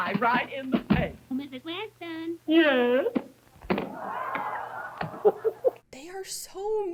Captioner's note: audience laughter